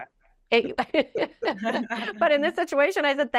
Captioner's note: laughing